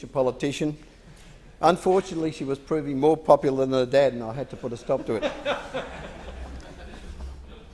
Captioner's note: laughter